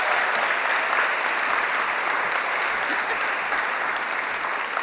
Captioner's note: applause